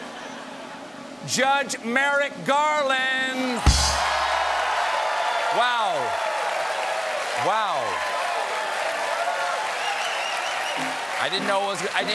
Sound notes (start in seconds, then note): 0.0 drum roll; 3.5 cheers and applause